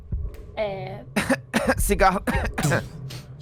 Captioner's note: fake cough